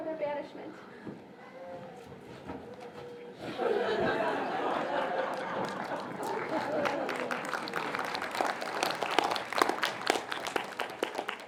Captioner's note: laughter and applause